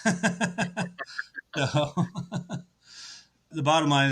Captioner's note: laughs